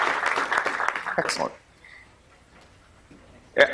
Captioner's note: clapping